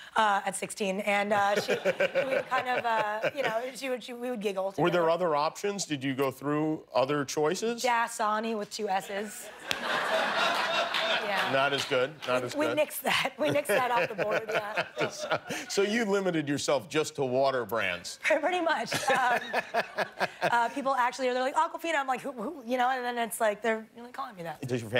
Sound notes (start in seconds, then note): 16.0 laughter